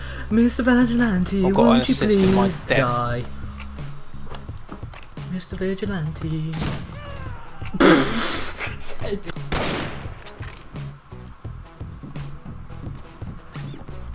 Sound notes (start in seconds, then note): 6.4 gunshot; 6.9 coward's death cry; 7.8 burst of laughter; 9.4 gunshot